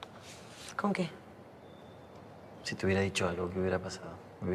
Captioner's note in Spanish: none